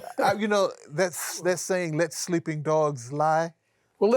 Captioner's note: laughs